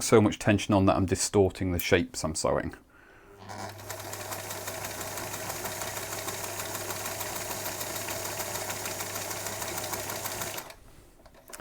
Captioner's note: sewing machine running